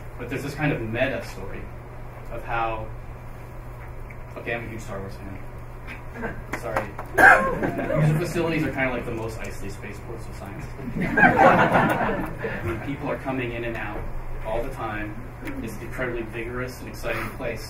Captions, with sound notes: But there's this kind of meta story of how -- okay, I'm a huge Star Wars fan. Sorry. User facilities are kind of like the Mos Eisley Spaceports of science. [ Laughing ] I mean, people are coming in and out all the time. It's an incredibly vigorous and exciting place.